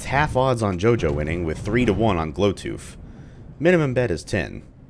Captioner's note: thunder